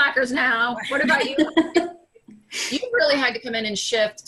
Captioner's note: laughing